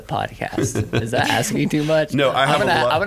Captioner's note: laughing